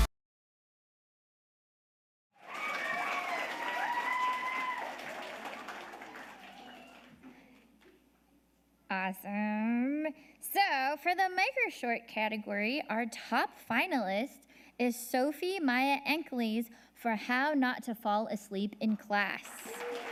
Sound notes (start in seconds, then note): 2.4 audience applauding